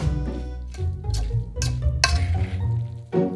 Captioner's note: fork scrapping metal